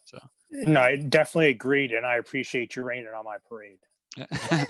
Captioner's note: chuckles